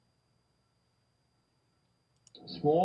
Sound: no sound

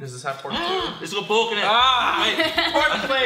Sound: gasps

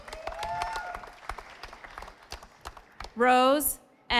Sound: audience applauding

